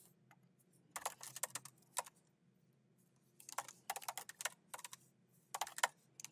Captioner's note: keyboard clacking continues